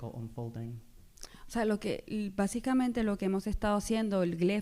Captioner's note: speaking spanish